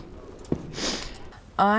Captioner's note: sniff